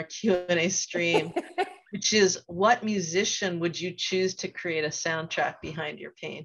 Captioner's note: laughs